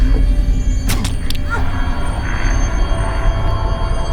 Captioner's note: rod plunges